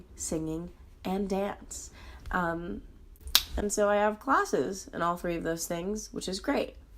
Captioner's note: tongue smack